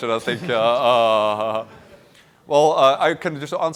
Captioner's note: laughter